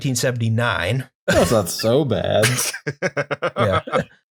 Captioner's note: laughter